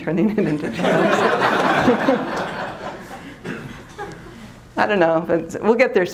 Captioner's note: laughter